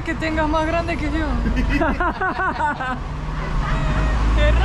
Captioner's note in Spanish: Risas